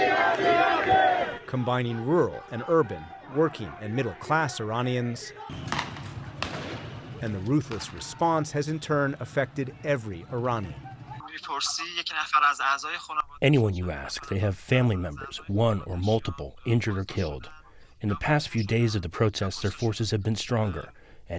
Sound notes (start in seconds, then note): 13.8 through translator